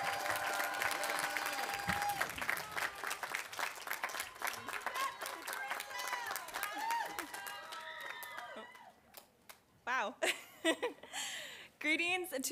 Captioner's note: applause